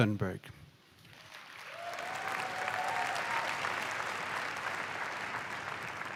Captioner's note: applause